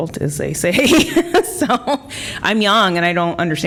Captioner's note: laughter